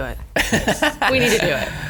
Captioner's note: laughs